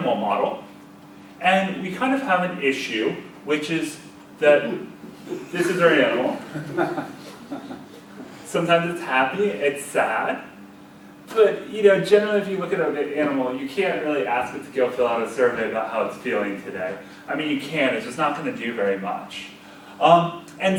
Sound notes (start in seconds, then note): 6.4 audience laughs